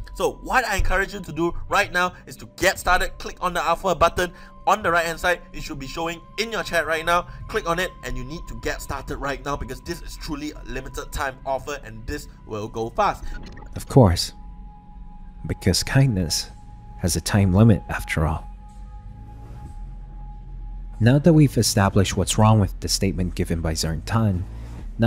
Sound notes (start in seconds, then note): 13.1 glitch sound effects; 19.0 revving sound effects